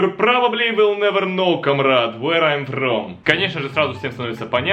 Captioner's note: speaks with strong Russian accent